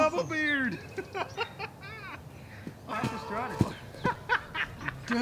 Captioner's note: laughing